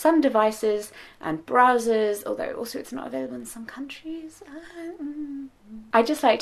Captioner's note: sights